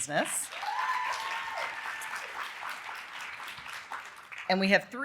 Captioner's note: audience cheering and applauding